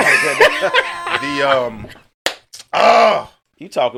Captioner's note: laughter